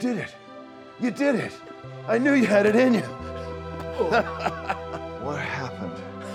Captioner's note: laughs